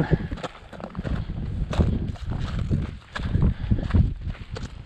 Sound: footsteps crunching

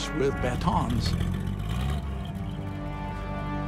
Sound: engine rumbling

